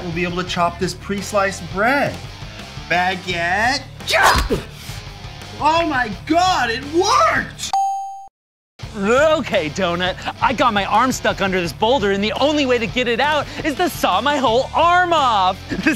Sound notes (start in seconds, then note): 4.3 baguette chops; 7.7 check mark dings